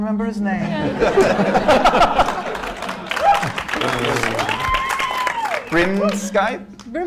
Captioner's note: laughter